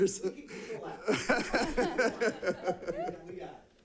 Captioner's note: all laughing